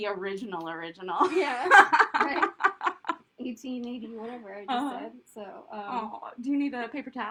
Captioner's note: laughter